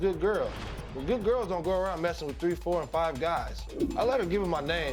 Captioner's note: none